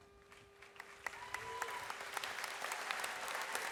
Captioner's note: audience applauds